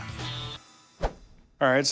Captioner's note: swiping